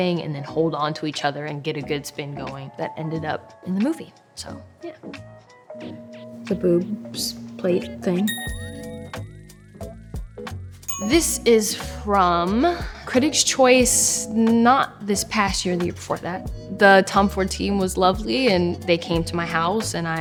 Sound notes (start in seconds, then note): 8.3 phone dinging; 9.2 upbeat music